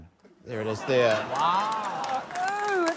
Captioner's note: applause